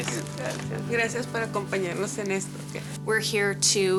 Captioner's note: speaking in a foreign language